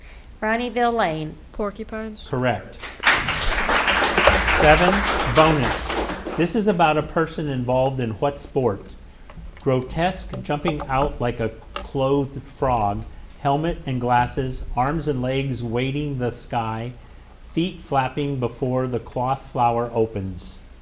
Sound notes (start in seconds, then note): 2.8 audience applauding